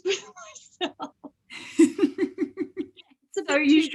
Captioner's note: both chuckle